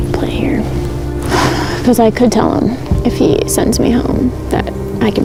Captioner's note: sighs